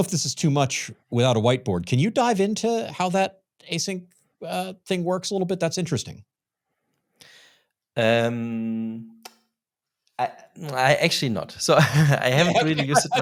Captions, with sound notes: I don't know if this is too much without a whiteboard. Can you dive into how that Async thing works a little bit? That's interesting. - Actually not. (laughs) So I haven't really used it myself.